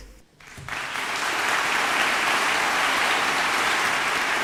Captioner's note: audience applauding